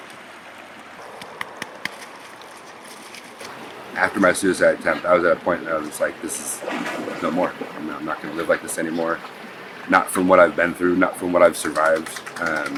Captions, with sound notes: (hand thudding) - After my suicide attempt, I was at a point that I was like, this is no more. You know, I'm not gonna live like this anymore. Not from what I've been through, not from what I've survived.